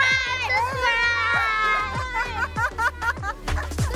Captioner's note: laughs